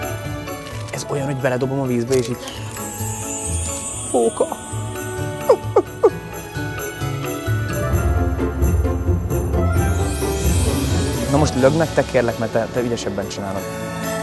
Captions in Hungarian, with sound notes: Ahh. Ez olyan, hogy beledobom a vízbe és így... [csillámrobbanás hangeffekt] Fóka! [fókahangot imitál] Most lökd meg te kérlek, mert te ügyesebben csinálod.